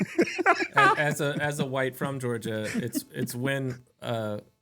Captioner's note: both Laughing